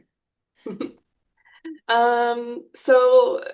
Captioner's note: chuckles